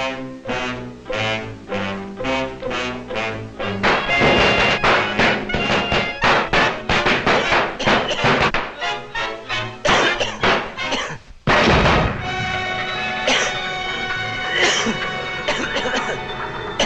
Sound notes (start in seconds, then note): 2.6 bombs popping; 3.9 Superman coughs; 11.4 box booms; 11.7 Superman coughs